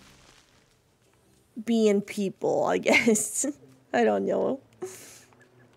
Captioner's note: laughs